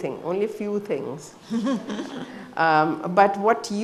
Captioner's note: chuckles